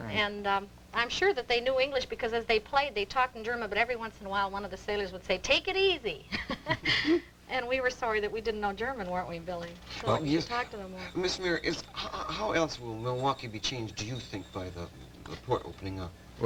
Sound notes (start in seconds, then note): 6.3 laughs